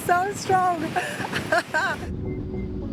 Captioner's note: laughs